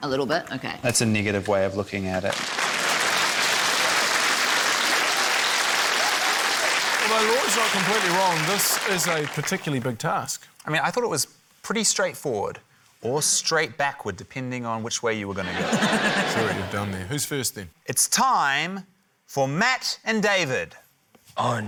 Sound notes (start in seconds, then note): 4.9 applause; 15.4 laughter